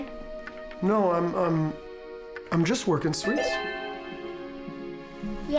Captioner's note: chime